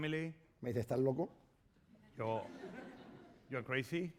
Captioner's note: speaking spanish